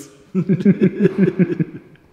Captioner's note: laughter